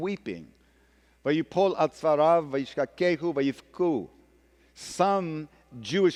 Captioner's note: speaking hebrew